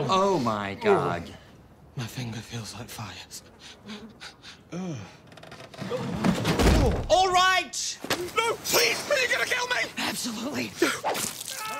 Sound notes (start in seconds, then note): 5.8 crash